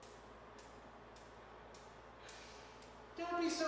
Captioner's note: rhythmic tapping